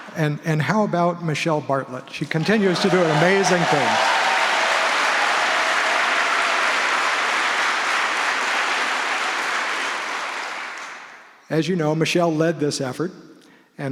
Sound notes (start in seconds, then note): 4.0 applause